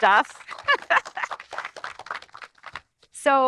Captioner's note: audience applauding; laughing